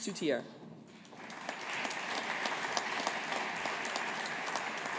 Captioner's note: audience applauding